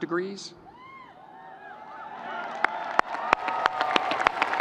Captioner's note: audience cheering